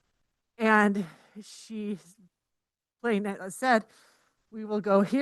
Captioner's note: speaks faintly